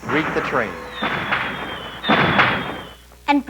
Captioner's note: fireworks exploding